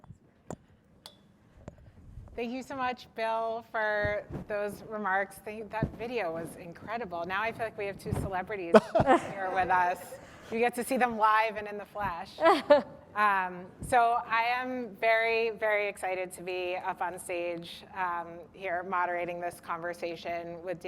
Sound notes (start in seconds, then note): 8.7 laughter; 12.4 laughter